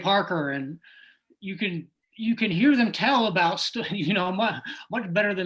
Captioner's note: laughs